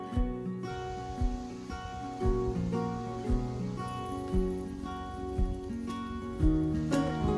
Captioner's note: wind blowing in the trees